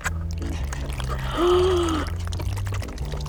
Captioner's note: gasps; mixture sloshes